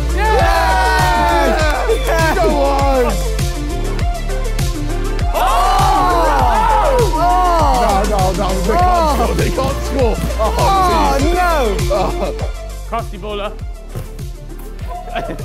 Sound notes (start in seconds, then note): 0.4 group In Unison; 2.1 upbeat music; 5.7 group In Unison